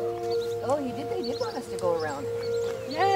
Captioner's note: speaking english